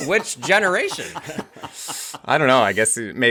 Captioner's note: laughs